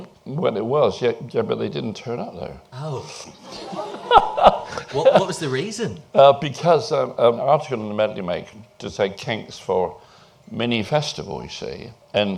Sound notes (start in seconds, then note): 3.4 laughter